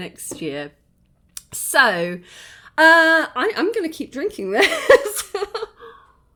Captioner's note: laughing